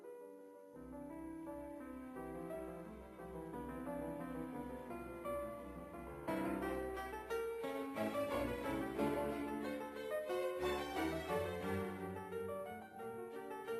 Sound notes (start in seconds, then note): none